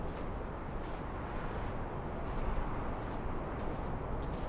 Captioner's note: man's footsteps